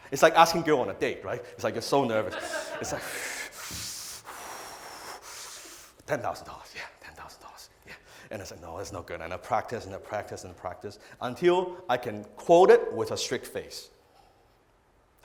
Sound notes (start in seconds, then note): 2.4 deep breathing